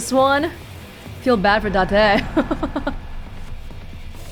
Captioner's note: chuckles